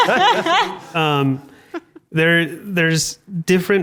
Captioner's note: panelists laugh